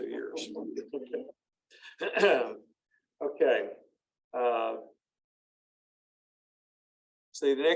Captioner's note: laughter